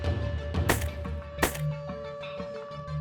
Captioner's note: gun shots